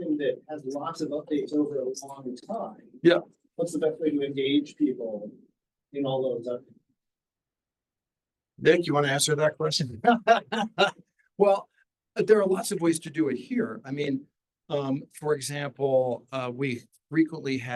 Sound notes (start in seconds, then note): 10.0 laughs